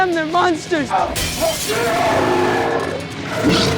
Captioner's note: glass shatters; growls